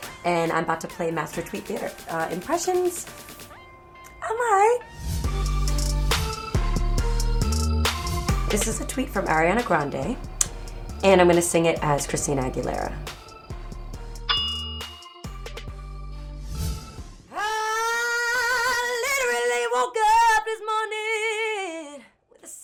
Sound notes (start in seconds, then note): 5.4 mysterious music; 14.3 ding